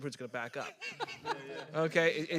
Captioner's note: panelist's laughing